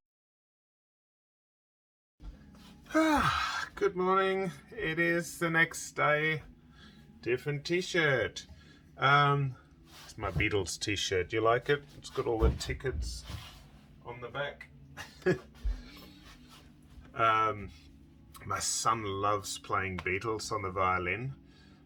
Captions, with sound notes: (sighs) Good morning, it is the next day. Different T-shirt. It's my Beatles T-shirt, do you like it? It's got all the tickets on the back. My son loves playing Beatles on the violin.